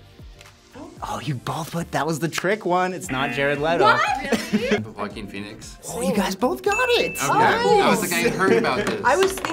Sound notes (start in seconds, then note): 3.1 buzzer